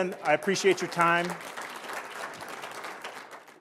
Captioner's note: applause